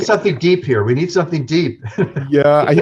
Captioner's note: laughing